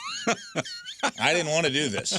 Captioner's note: laughing